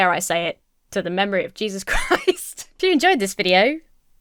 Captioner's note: Emma laughs